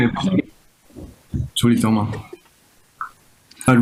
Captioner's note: habla en chino